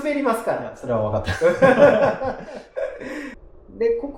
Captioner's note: laughs